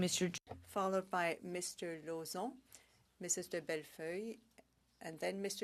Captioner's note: speaking French